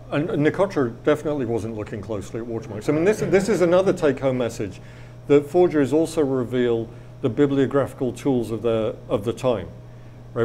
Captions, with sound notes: and Nicotra definitely wasn't looking closely at watermarks. (audience laughs) I mean, this is another take-home message, that forgeries also reveal the bibliographical tools of the time.